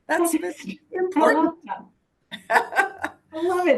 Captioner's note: laughs